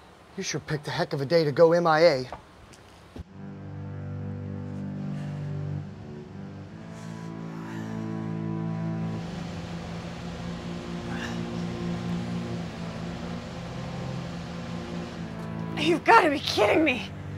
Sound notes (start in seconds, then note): 3.6 ominous music; 11.1 Alex grunts